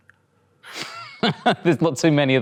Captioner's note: laughs